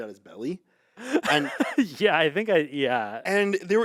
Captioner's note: laughs